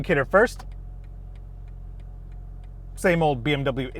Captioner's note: indicator clicking